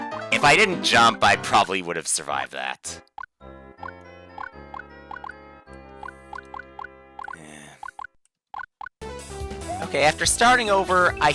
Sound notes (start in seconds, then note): 7.3 sigh